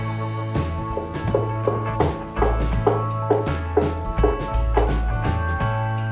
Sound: hammering

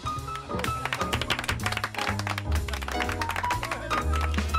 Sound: aplausos para solo

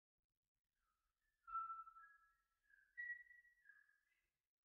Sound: whistling

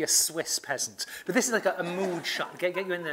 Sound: laugh

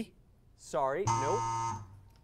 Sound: error buzzer

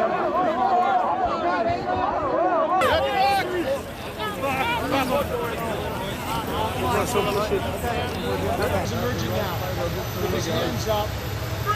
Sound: crowd shouting

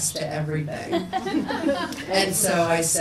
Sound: people laugh

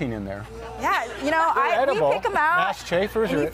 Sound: laughing

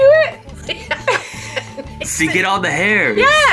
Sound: both laughing

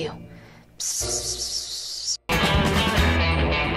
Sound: whispering

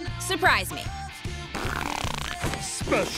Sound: farting

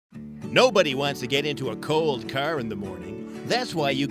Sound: voiceover

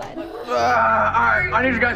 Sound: groaning

